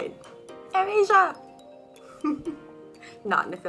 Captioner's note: giggles